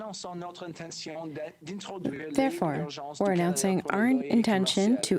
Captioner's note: speaking french